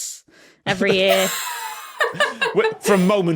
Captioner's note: wheeze